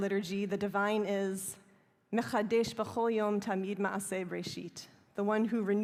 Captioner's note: speaking hebrew